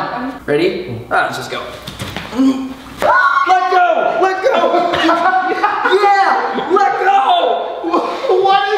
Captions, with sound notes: Ready? Aw, let's just go. (Screams) Let go! Let go! Yeah, let go!